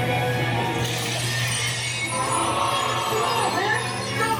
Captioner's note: glass shattering